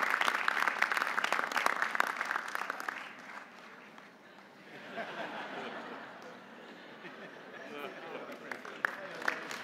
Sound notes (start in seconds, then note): 4.4 audience laughing